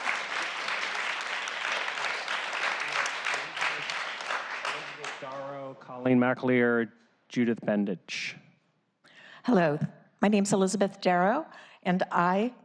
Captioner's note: applause